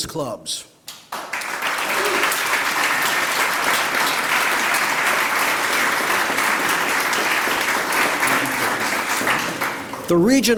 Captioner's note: applause